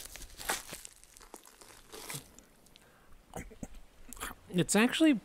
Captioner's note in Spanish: el sonido de masticar